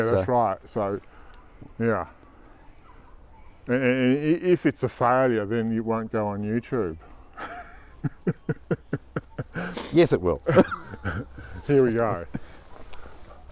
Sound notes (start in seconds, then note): 7.3 laughter